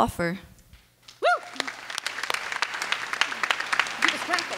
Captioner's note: clapping